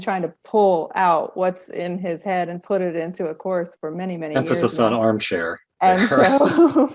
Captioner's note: laughing